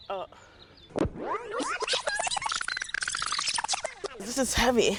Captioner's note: tape whirls fast-forward